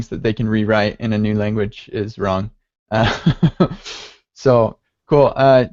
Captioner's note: laughs